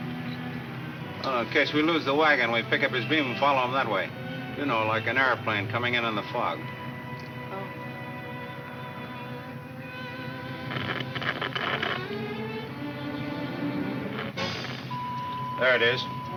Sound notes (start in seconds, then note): 10.0 radio crackles; 14.9 radio beeps